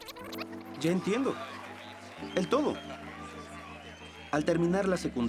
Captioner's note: voiceover